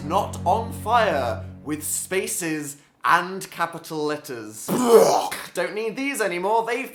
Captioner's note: fake puking